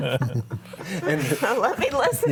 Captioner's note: group laughing